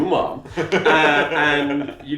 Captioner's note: laughing